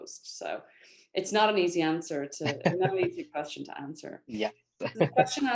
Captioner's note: laughter